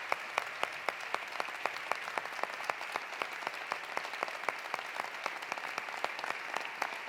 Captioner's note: applause continues; cheering continues